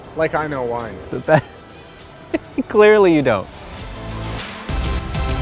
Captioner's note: laughs; upbeat music